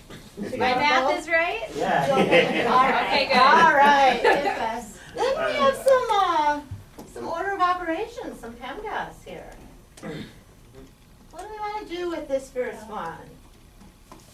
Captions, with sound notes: - [Voiceover] My math is right? - [Voiceover] Yeah! (class laughs) - Then we have some Order of Operations. Some PEMDAS here. What do we want to do with this first one?